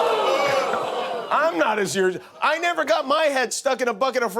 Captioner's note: audience moaning